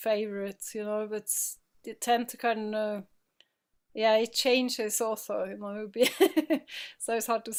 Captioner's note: laughing